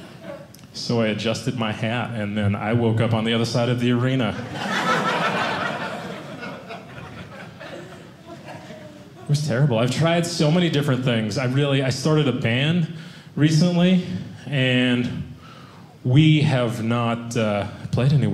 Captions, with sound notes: So I adjusted my hat, and then I woke up on the other side of the arena. (audience laughing) It was terrible. I've tried so many different things. Really, I started a band recently, and we have not played anywhere.